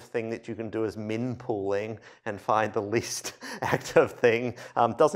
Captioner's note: laughter